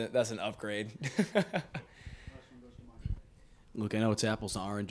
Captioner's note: laughs